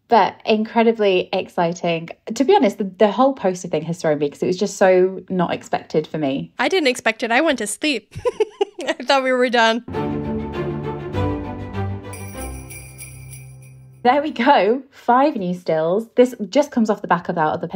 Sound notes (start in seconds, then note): 8.0 laughs; 9.8 theme music; 12.1 bell ringing